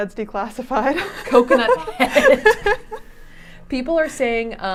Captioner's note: laughing